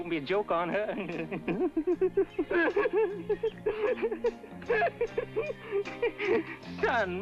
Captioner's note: awkward giggling